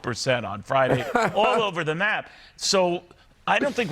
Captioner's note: laughing